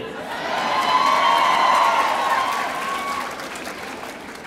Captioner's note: audience cheering